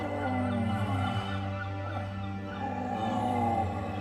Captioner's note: groaning